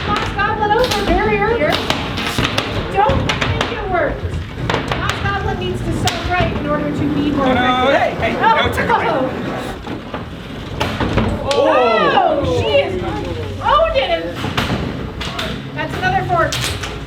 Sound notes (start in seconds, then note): 4.2 robots clattering; 11.1 robots thudding; 12.1 crowd